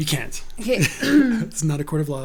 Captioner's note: laughs